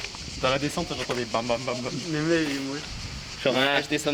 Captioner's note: indistinct chatter